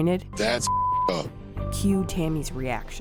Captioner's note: beep